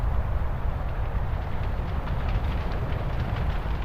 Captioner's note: sound: Forest fire roaring